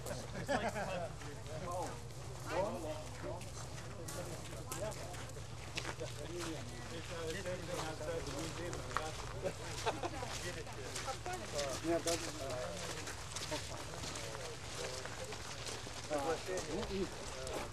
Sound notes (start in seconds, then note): 2.2 chatter